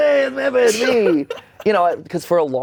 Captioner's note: Anthony chuckles